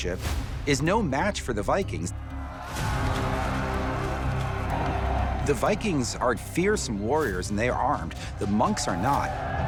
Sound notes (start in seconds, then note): 2.2 dramatic music; 3.0 Vikings yelling